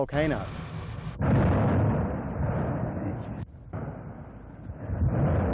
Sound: volcano Eruption Noises

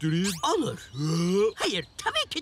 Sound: sound of opening his mouth

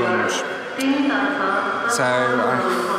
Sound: airport announcer calling

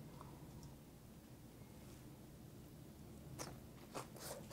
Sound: crunching

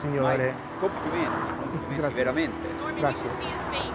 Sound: speaks Italian; driver speaks Italian

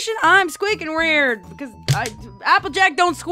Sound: thump

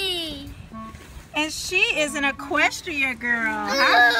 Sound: voiceover

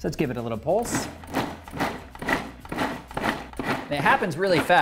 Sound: food processor whirring

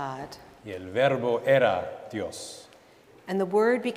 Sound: speaking in Spanish

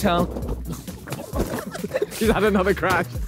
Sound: suitcase hitting floor; all laughing

